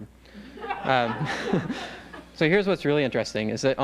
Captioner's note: laughter